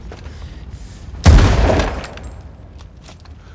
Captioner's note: gunshot